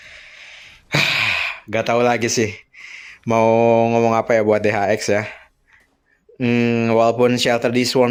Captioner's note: sighs